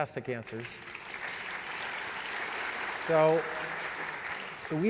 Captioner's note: applause